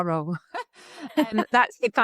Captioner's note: laughing